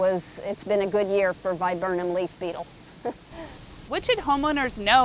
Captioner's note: laughs